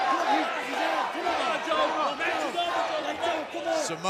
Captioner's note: fans chanting